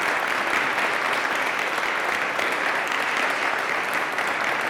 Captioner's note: attendees applauding